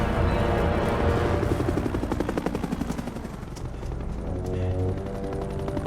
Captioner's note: helicopter whirring